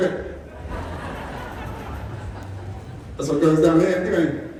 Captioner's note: laughter, Applause